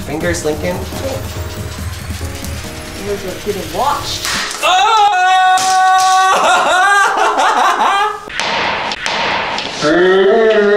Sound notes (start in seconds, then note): 0.0 upbeat music; 6.0 yelling